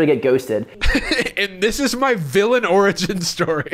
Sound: laughs

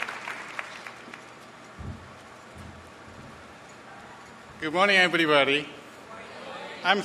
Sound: applause

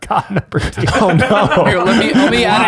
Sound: group laughs

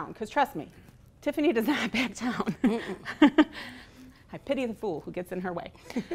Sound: laughing

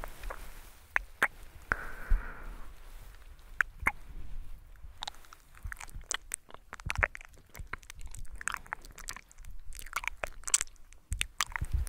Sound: mouth sounds

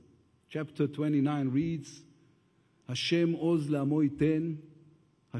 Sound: speaks Hebrew

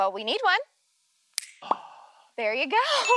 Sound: snaps

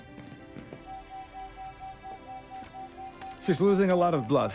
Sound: machines beeping

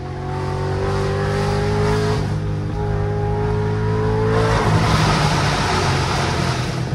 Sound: super loud exhaust

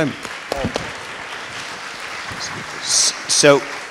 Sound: audience clapping

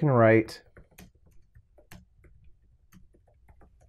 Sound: typing

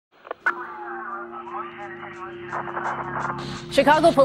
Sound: police radio scanner

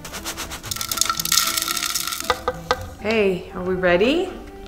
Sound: granola rattling

